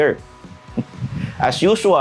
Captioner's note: laughs